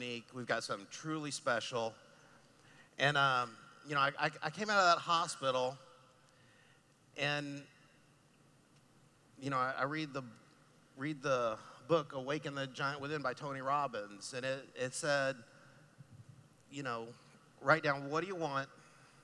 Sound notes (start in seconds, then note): none